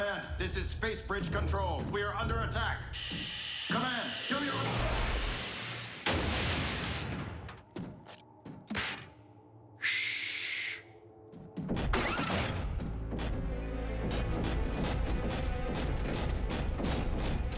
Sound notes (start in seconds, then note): 3.4 static